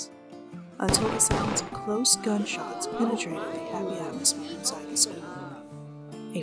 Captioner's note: two Gun Shots